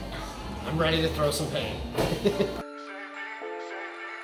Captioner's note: mischievous music; laughs